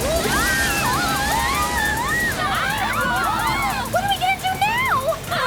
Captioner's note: screaming